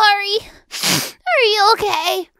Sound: sniff

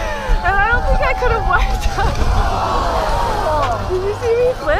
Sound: laughs

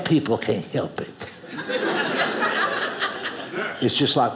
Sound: audience laughing

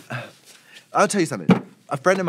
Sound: sigh; Trixie's shoe whumps

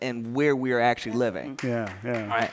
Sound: applause

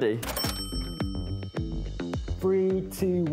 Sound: cash register dings

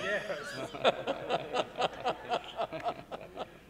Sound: all laughing

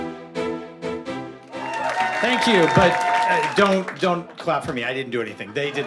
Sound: applause; laugh

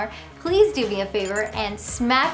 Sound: graphics blipping

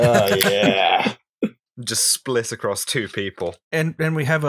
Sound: laughter

